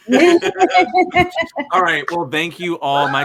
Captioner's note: all laughing